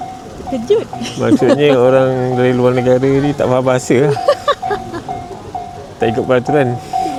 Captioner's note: laughs